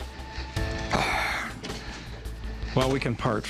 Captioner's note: sighs